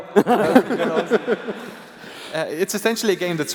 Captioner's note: laughter